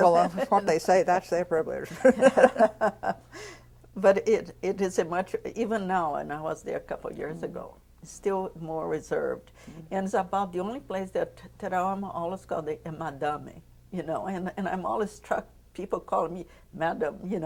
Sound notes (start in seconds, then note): 4.0 laughter